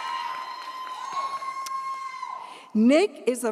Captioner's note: audience cheers